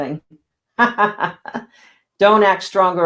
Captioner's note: laughing